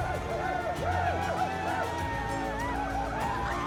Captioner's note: whooping